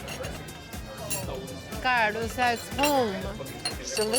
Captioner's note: speaking Spanish